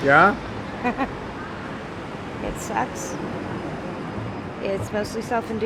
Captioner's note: laughing